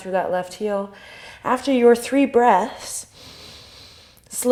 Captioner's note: inhale